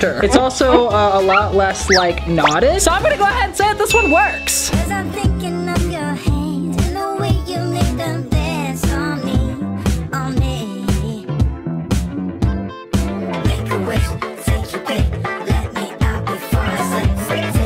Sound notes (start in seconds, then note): 3.9 dinging